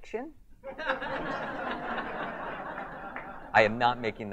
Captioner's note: audience laughs